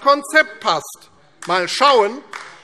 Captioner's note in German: Beifall AfD